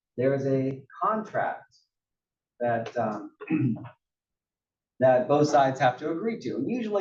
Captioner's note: cough